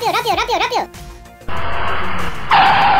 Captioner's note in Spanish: motor de vehículo; llantas frenando y golpe